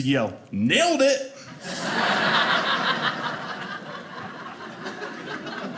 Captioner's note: audience laughing